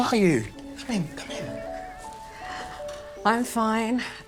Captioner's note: children chattering